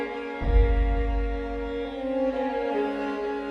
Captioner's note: deep thump